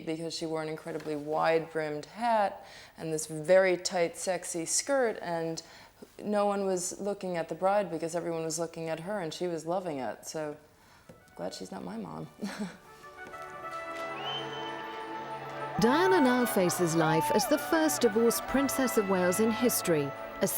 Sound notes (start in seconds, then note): 12.4 chuckles; 12.8 bright, regal horns music